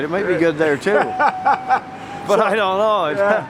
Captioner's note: interviewer laughing